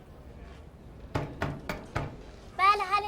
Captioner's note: knocking